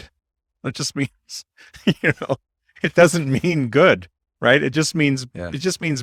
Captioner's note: laughs